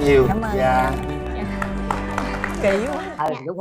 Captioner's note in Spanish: Aplaudir